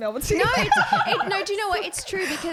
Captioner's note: laughing